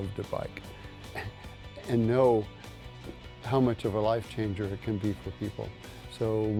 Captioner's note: laugh